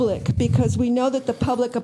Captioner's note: crowd Noise